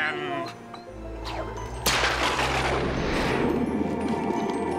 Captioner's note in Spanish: látigo crujiendo